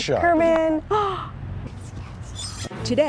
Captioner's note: gasping